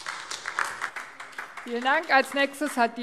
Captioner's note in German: Beifall AfD